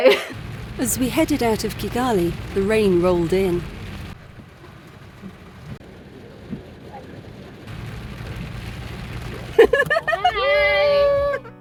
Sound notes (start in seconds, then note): 4.3 heavy rain; 9.5 laughing